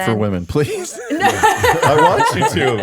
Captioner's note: laughing